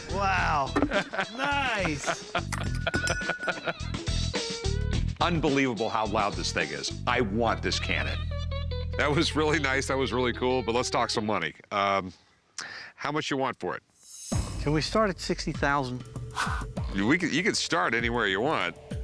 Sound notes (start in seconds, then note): 0.9 laughing